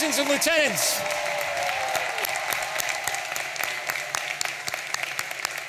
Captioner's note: audience applauding and cheering